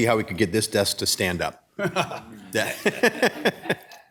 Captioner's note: laughter